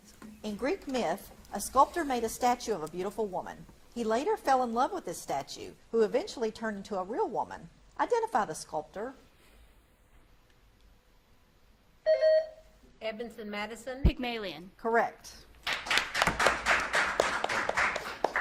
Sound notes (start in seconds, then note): 12.1 buzzer beeps; 15.6 audience claps